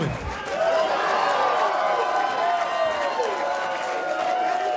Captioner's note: audience cheers